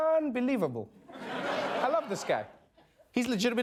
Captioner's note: laughter